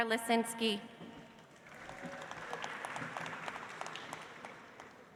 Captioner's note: audience applauds